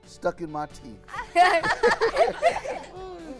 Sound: laughter

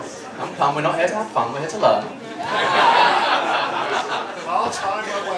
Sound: laughter

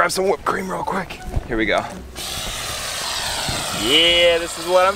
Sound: whipped cream spraying

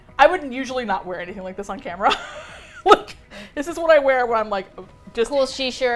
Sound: laughs

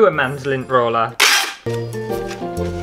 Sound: tape Screech; christmas Music

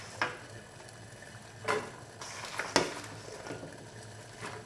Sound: water boiling

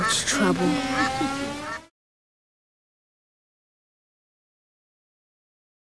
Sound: laughs

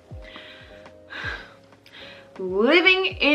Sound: sighs

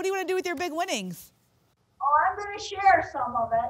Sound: none

